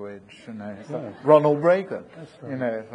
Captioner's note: audience laughing